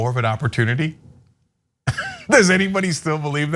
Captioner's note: laugh